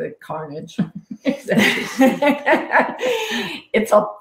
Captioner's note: all laughing